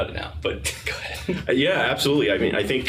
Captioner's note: laughing